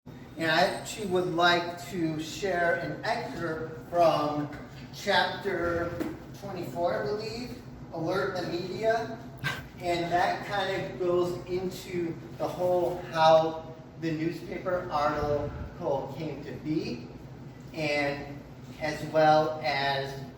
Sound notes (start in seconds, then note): 4.4 thump of book hitting hand; 9.4 chuckle from audience member